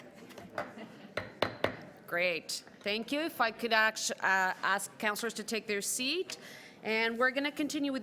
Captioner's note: banging gavel